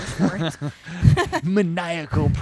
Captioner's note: both laugh